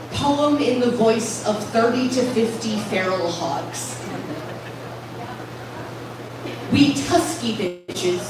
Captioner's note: laughter